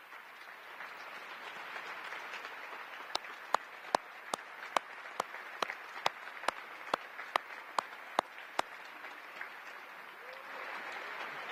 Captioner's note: applause